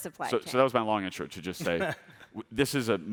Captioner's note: laughing